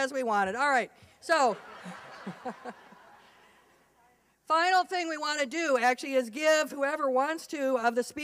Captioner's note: laughter